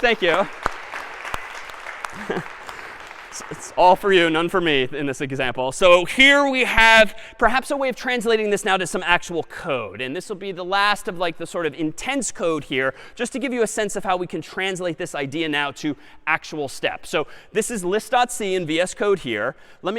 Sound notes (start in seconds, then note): 2.0 laughs